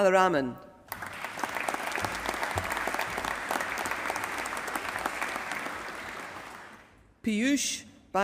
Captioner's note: applause